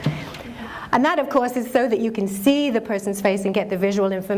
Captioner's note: chuckle